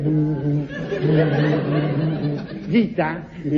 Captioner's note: blows